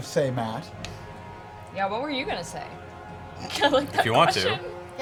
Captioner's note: laughs